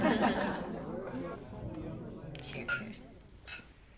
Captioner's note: group laughing; group chattering